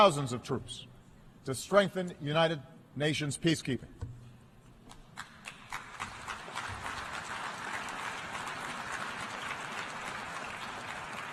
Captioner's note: applause